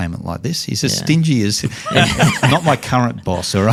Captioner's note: laughs